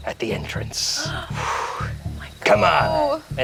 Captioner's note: gasps